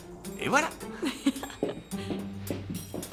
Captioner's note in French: rires